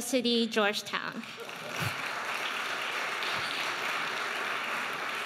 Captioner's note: audience applauding